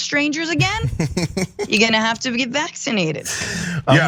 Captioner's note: laugh